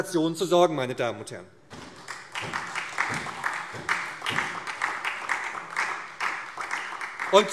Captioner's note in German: Beifall SPD